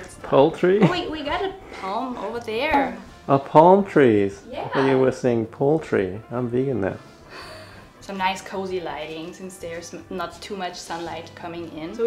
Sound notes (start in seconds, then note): 0.0 softly laughs; 0.8 snickers; 7.3 laughs